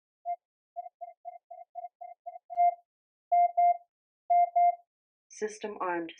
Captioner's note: faster rhythmic beeping